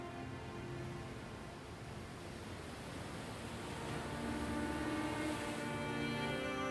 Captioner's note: waves splashing